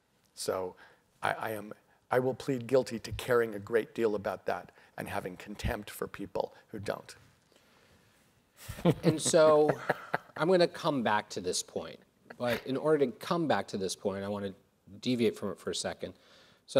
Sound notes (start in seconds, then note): 8.9 laughs